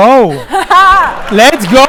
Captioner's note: laughs